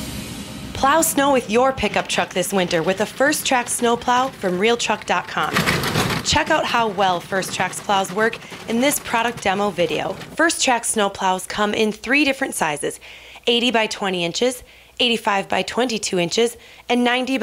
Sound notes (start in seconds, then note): 5.5 plow sounds